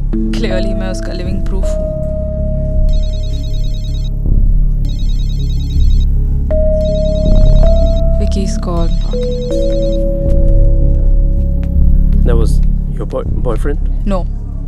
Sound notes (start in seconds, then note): 3.0 Phone ringing